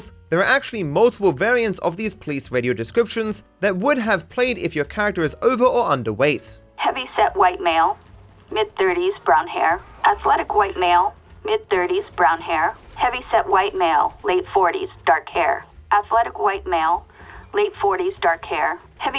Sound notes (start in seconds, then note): 8.5 police Radio